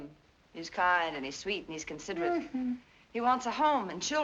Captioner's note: mocking, high-pitched; chuckles